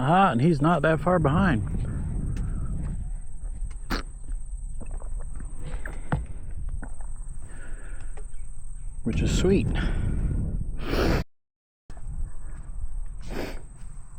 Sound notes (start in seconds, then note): 7.4 sniffing